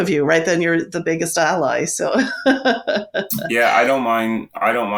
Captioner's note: laughs